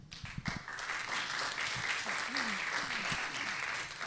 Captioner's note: applause